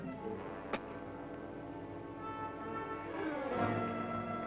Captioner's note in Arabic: صوت الأغلال